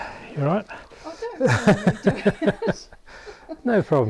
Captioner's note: laugh